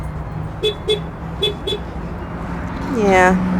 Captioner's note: car honking